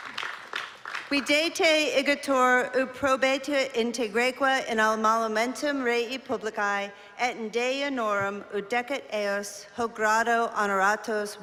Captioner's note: non-english speech